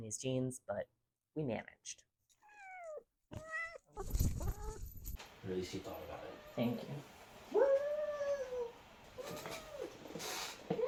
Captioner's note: meowing